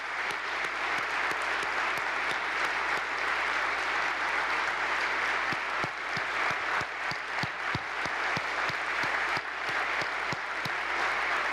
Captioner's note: applause